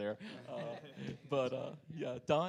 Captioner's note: panelists laugh